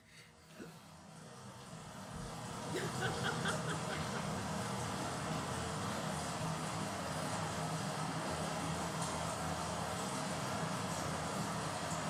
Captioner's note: water spurting